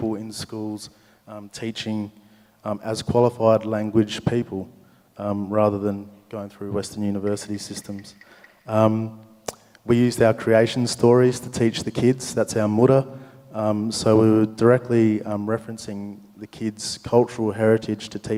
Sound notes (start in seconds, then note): 7.7 clap sticks rattle; 12.7 speaks native language